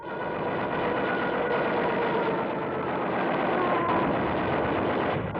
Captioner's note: loud gunshots